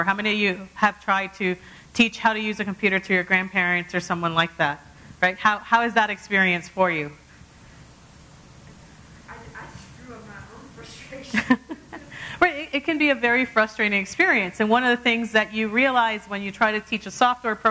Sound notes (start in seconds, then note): 11.2 laugh